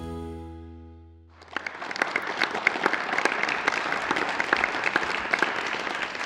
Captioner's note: audience applause